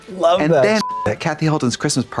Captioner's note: beep